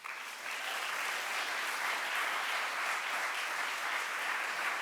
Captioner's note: audience applauds